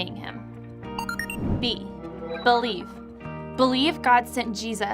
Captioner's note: computer bleeping